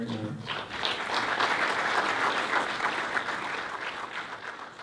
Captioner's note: applause